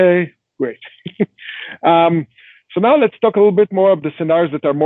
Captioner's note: chuckling